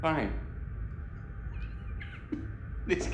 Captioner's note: chuckles